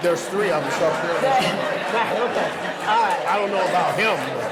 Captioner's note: audience laughing